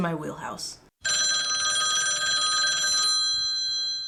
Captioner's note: phone ringing